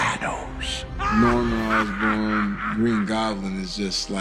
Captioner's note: Green Goblin cackles